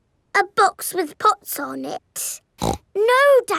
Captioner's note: snorts